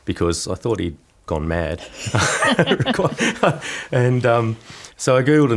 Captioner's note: laughter